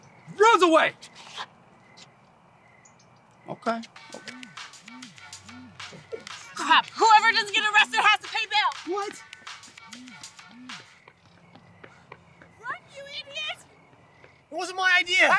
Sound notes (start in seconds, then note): 3.9 ringtone